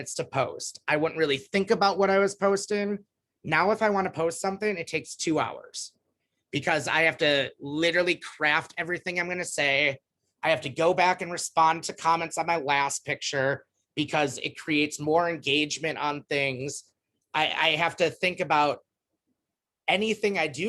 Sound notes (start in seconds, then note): none